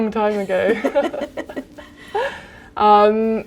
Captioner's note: laughter